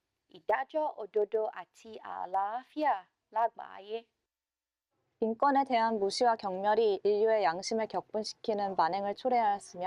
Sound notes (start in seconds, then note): 6.0 speaking korean